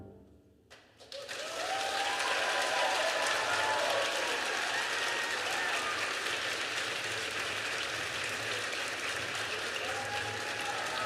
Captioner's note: applause; cheers